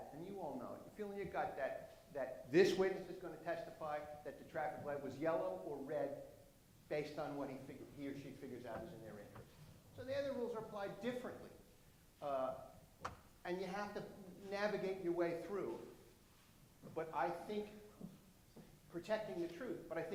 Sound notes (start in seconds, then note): none